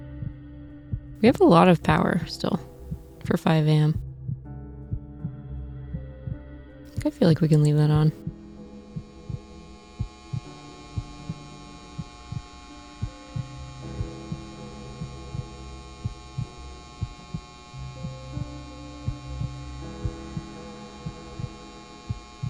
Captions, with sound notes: We have a lot of power still for 5:00 AM. I feel like we can leave that on. [incandescent light buzzing]